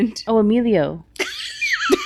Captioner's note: laughing